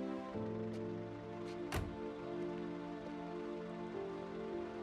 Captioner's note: car door closes